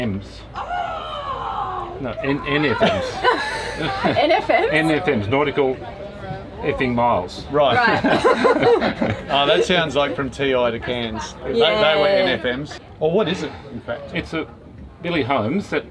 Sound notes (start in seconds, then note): 9.3 laughing